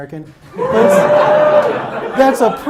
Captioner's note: audience cheers